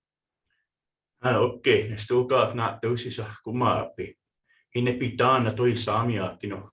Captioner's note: speaking in foreign language